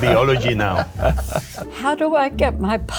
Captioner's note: all chuckling